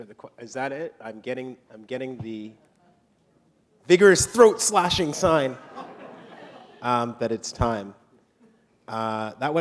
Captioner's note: laughter